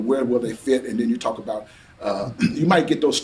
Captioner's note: clears throat